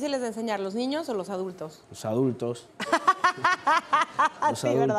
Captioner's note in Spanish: Ríe